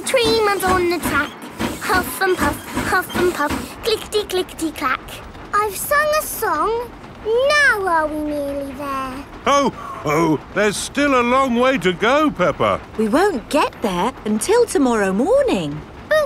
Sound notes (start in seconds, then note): none